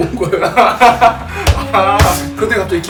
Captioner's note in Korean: 웃음